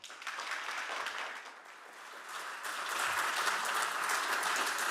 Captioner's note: audience clapping